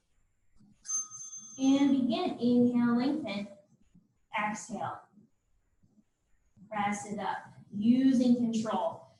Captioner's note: ding